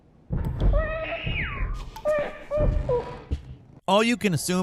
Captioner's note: footsteps; screaming